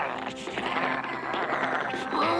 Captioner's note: growling